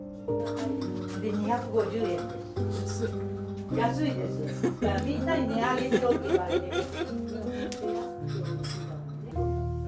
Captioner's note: laughs